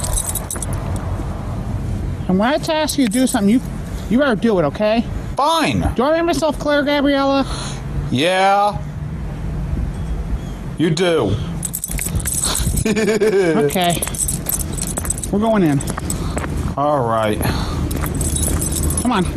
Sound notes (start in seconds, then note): 12.4 laughs